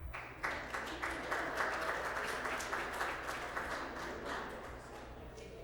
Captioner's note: applause